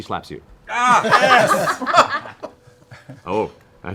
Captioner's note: yelps